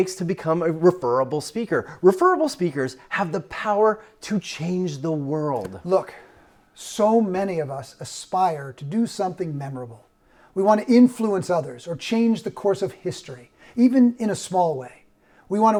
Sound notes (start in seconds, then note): none